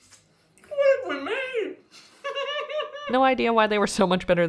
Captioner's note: incredulous giggling